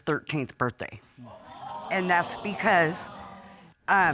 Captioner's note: audience gasps